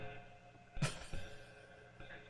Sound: chuckles

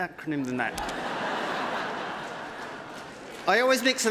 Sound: applause

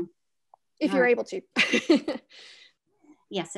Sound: laughs

